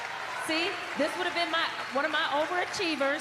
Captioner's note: cheers and applause